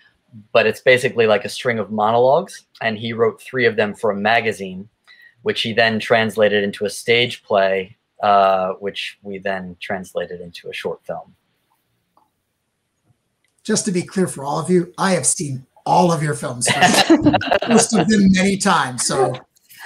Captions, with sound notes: but it's basically like a string of monologues and he wrote three of them for a magazine, which he then translated into a stage play, which we then translated into a short film. Just to be clear for all of you, I have seen all of your films for sure, (guests laughs) most of them many times.